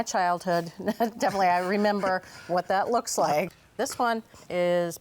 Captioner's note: chuckles